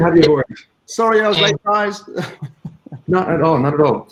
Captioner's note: chuckling